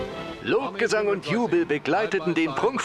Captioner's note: voiceover